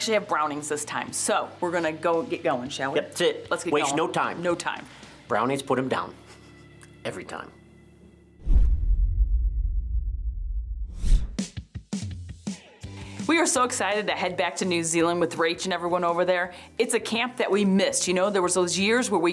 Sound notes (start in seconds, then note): 8.4 swooping; 10.9 swooping; 12.4 upbeat music